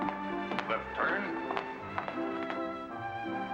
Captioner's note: boot steps